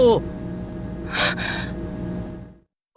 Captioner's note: gasp